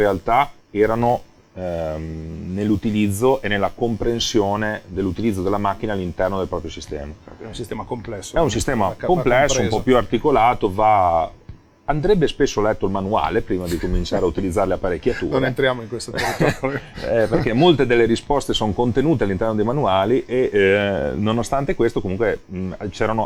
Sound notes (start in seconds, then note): 14.2 sarcastic; 18.6 laughs